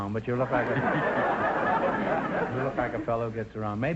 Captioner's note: audience laughter